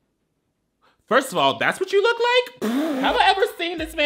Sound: laughing

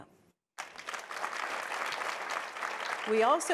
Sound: audience applauding

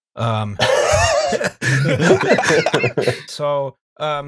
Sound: laughter

